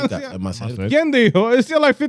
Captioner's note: speaking In Foreign Language